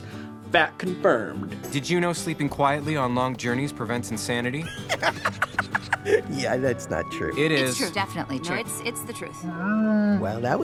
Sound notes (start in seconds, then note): 4.7 Olaf laughing